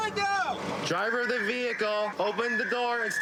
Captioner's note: using loudspeaker